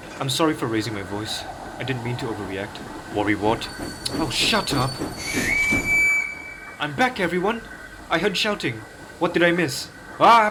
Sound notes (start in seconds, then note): 5.2 Percy whistles